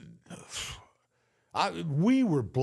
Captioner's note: Michael sighs